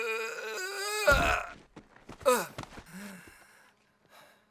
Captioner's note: headbutt thudding